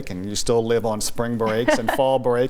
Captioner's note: laughs